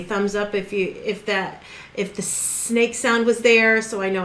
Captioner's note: hissing